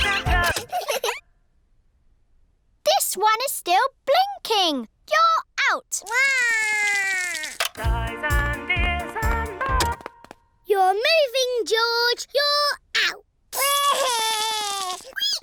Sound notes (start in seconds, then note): 0.3 music stops; 0.4 giggling; 6.0 cries; 10.1 music stops; 13.5 cries